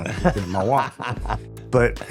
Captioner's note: laughing